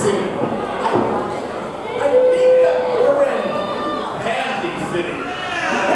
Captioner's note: audience cheering